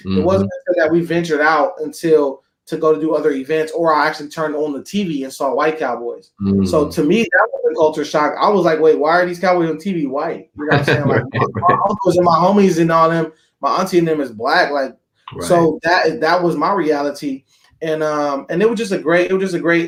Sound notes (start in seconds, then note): 10.6 laughing